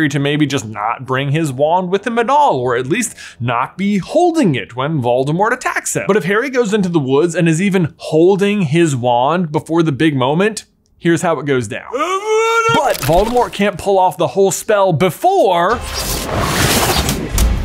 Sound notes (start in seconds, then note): 12.8 film stopping